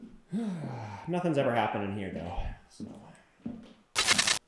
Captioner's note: sighs; static crackling